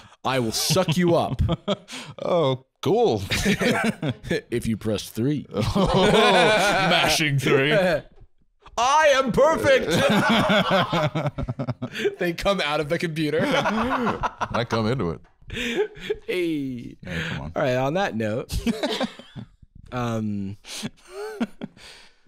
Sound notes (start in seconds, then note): 4.6 seductively; 9.8 both laughing; 14.0 laughs; 18.5 laughing